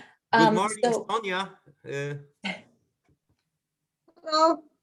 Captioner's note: laughs